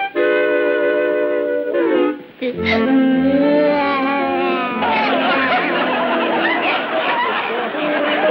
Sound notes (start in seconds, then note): 2.4 cooing; 5.0 crowd laughing